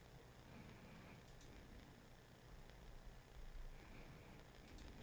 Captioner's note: mouse clicking